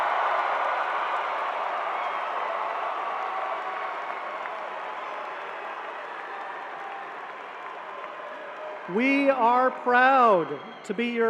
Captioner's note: cheering